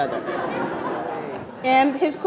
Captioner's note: attendees laughing